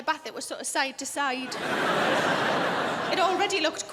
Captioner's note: crowd laughs